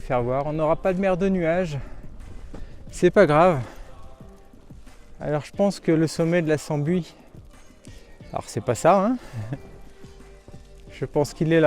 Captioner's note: laugh